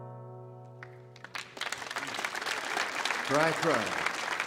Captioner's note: audience applauds